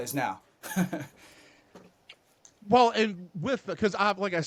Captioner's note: laughs